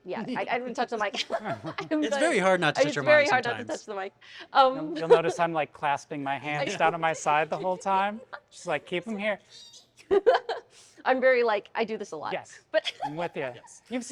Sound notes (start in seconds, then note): 1.1 laughs; 9.8 laughs